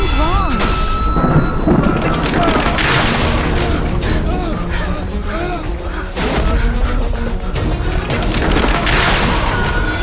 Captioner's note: people crying as the second wave of solar plasma hits